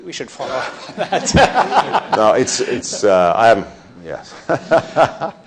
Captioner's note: people laughing